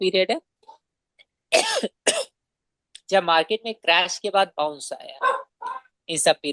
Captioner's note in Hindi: खांसने की आवाज़